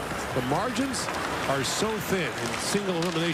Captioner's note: engine roar